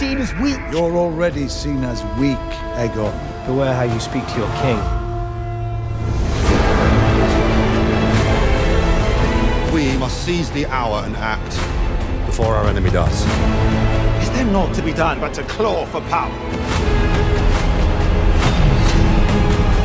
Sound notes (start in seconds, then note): 6.3 dragon screeches; 17.3 music intensifies